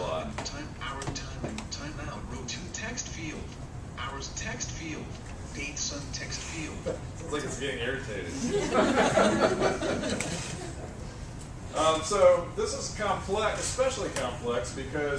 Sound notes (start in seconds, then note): 8.4 laugh